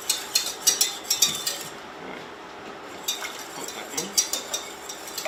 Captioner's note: whisk clacking